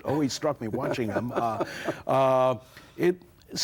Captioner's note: Jerry laughing